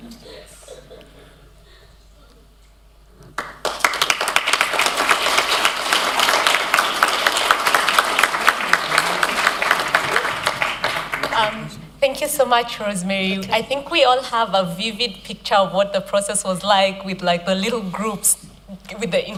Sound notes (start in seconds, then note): 3.3 applause